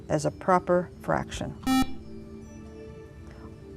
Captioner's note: buzzer